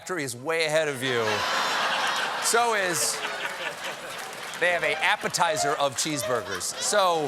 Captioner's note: laughter